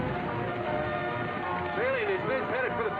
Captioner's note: dramatic music; horses galloping